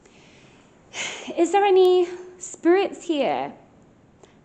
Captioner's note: sigh